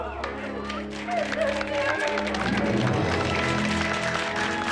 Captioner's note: audience applause